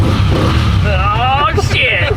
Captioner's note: laughing; engine revving